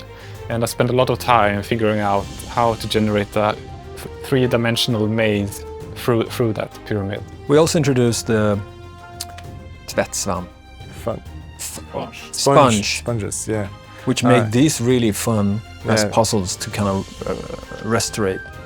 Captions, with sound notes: And I spent a lot of time figuring out how to generate that three dimensional maze through that pyramid. We also introduced the [SWEDISH SPOKEN]...sponge. Sponge sponges, yeah, which made these really fun puzzles to kind of restorate.